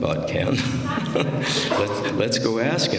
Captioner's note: laughter